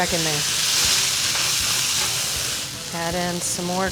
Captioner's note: pan sizzling